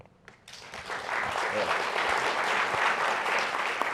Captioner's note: applause